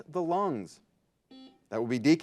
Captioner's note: buzzer buzzes